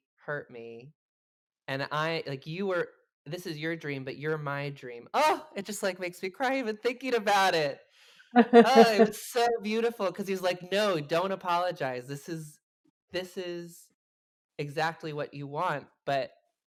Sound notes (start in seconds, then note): 8.4 chuckles